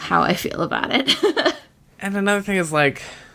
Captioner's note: laughs